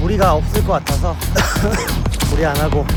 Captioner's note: cough